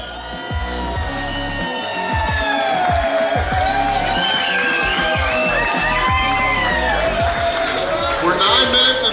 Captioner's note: clapping & Cheering